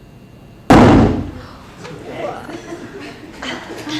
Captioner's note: balloon explodes